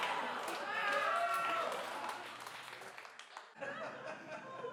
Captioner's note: laughing